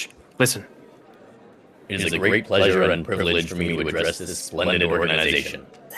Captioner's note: loudspeaker